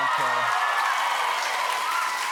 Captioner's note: cheers and applause